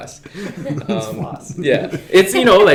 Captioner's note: laughing